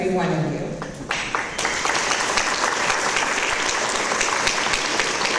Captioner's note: audience applause